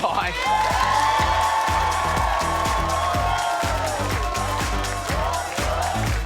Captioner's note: audience cheers; upbeat music